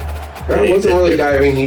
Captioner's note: crowd Noises